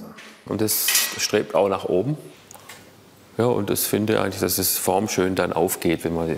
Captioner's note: none